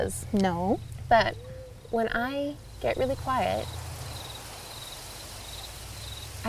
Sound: quiet sounds of insects and breeze

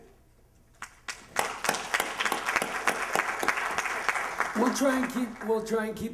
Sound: applause

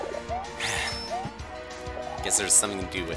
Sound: sigh

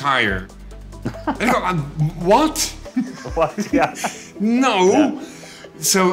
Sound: both laugh

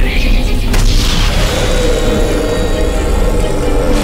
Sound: inhales sharply

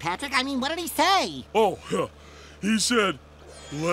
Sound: chuckles

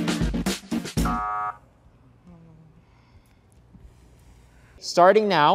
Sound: soft buzzer sounds

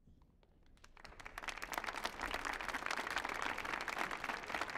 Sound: audience applauding

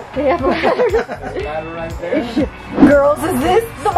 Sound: laugh

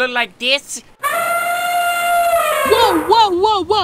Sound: elephant trumpeting

